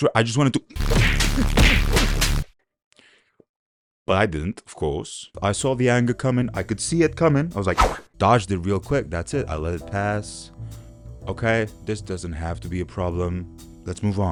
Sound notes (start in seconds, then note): 7.8 phew